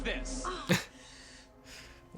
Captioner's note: chuckles; laughs; Katie groans in pain